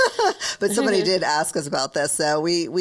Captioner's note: laughs